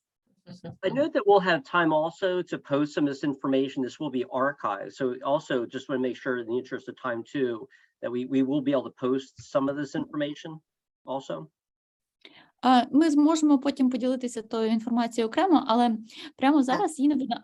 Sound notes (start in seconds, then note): 2.4 speaking Ukrainian